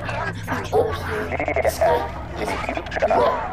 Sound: distorted speech

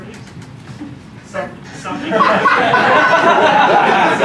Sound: laughter

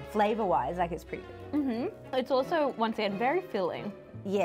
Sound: none

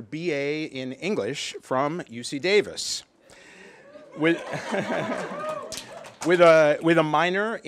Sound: applause

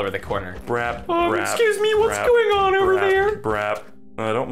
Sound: tiny voice

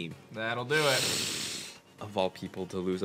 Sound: breathes in

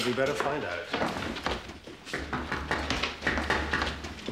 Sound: knocking on door

